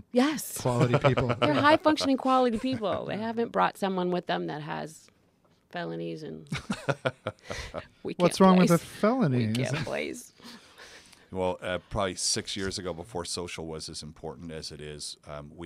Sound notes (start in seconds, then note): 0.7 laugh; 6.5 laugh